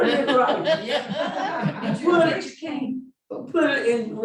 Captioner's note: laughing